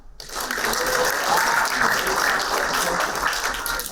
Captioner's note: applauding